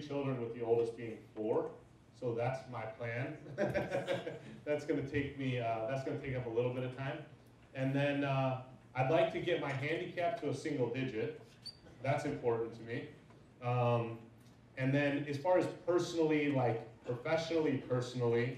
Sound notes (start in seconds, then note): 3.4 laughs